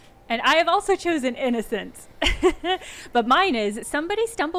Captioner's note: chuckling